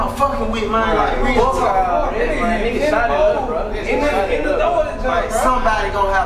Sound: arguing

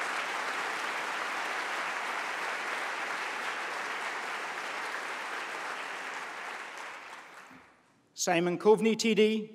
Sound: applause

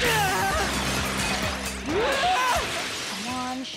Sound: grunting; screaming

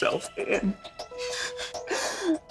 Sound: crying

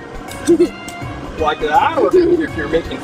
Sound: laughing

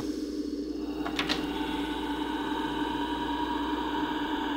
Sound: ghostly breathing

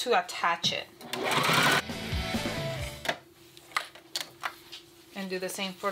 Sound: machine whirring; upbeat music

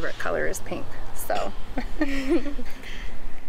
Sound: laughing

